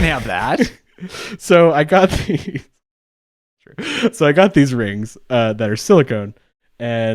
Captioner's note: laughs